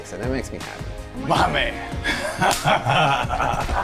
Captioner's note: laughs